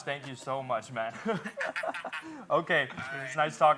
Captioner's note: both chuckle